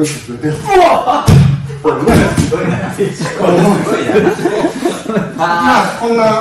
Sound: laughs

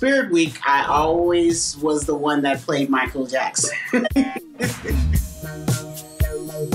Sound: laughing

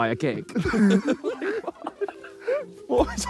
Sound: all laughing

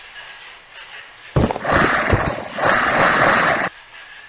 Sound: zombies roaring

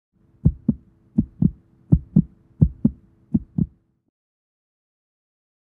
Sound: heart beating

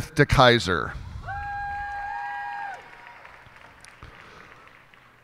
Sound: cheers and applause

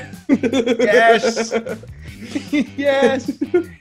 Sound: laugh

